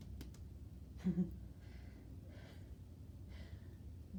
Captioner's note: laughs